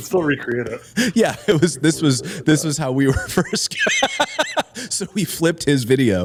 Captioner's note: laughter